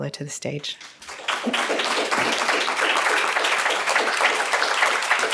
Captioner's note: all applaud